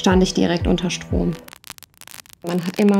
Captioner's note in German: Stromknistern